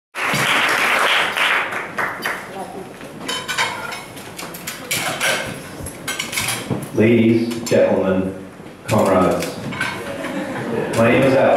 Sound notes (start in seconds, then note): 0.1 applause